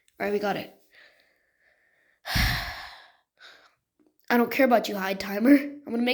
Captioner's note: sigh